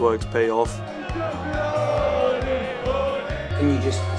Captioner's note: chanting